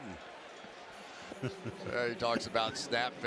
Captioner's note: laughter